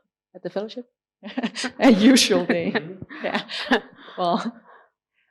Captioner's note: laughing